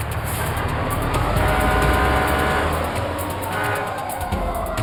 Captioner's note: sirens